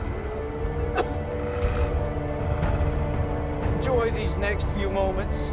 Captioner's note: growling